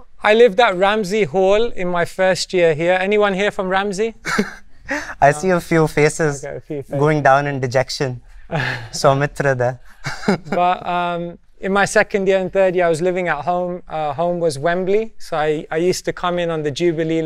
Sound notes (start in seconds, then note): 4.2 laughs